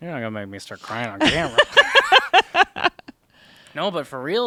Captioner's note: laughs